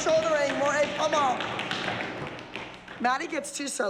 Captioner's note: french